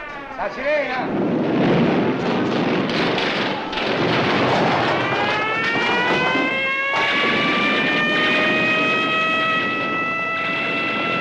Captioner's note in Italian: esplosioni, allarme antiaereo e grida